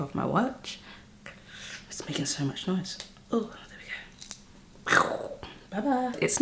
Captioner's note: whispers